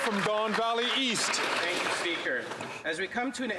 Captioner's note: some Applause